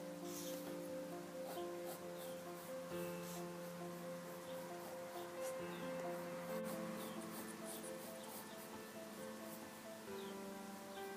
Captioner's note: pencil noises and birdsong in background